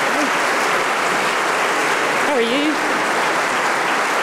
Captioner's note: applause